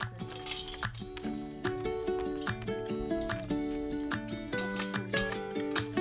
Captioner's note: chain link fence sounds